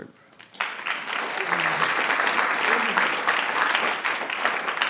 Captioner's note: audience clapping